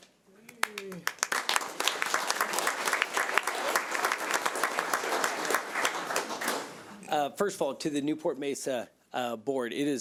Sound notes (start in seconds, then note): 0.6 audience applauding